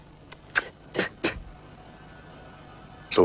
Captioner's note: spits